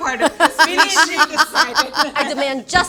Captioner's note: laughs